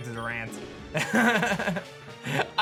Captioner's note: soft chuckle